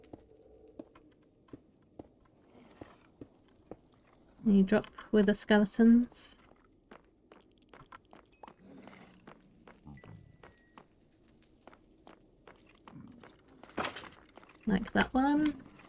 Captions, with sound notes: Any drop wither skeletons? [Bones falling] Like that one.